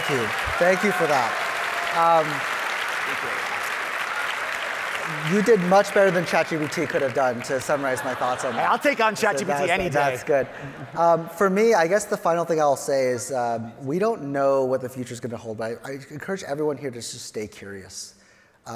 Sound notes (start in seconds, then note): 0.0 audience applauding; 2.1 audience applauding; 7.5 audience laughing